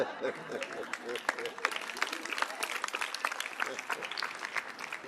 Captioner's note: audience laughing; audience applauding